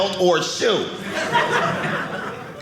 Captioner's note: audience laughing